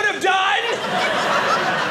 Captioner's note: audience laughing